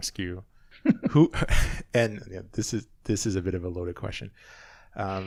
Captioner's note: laughing; laughs